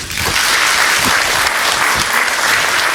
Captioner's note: applause